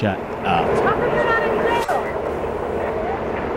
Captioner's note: soundbite of tv show, "jackass"